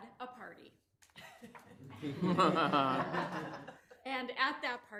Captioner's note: people laughing